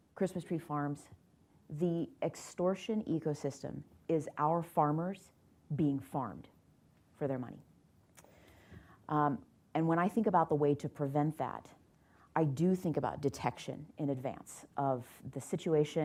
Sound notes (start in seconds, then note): none